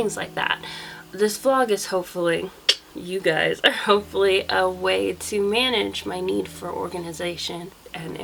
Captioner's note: tck